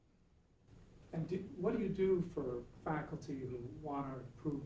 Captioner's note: voiceover